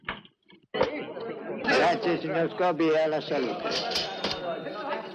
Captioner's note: chattering